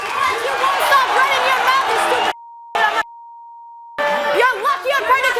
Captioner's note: beep